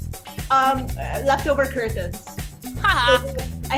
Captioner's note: laughs